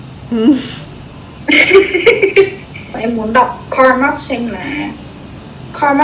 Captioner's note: laugh